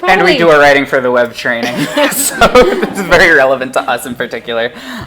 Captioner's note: laughs